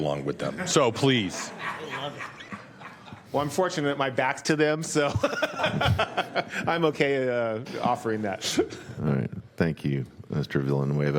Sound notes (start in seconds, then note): 5.0 laughter